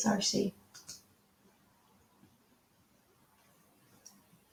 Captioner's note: mouse clicking